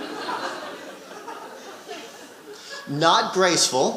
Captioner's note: audience laughing